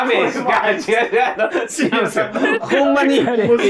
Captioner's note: laughing